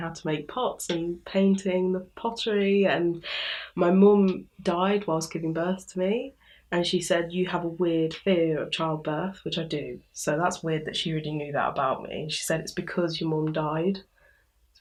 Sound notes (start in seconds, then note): none